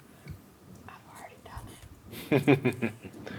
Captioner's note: whispers; chuckling